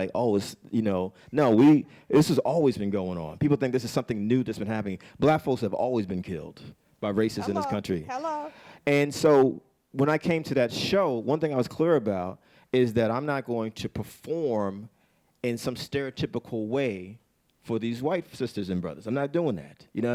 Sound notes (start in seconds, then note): 8.3 bell